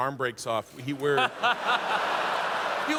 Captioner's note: laughter